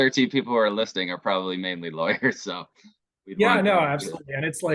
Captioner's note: chuckles